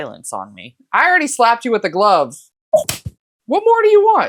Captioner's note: slap